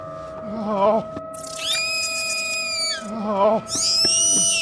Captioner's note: shrieker noises